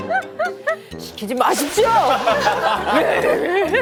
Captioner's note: laughs